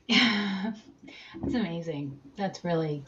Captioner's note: chuckles